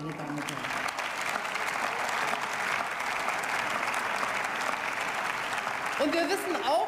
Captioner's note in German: Beifall